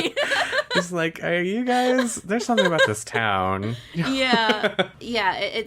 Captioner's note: laughs